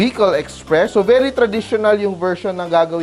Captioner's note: sizzle